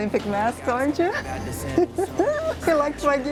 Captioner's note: laughs